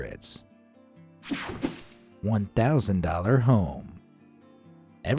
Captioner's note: cartoon swoosh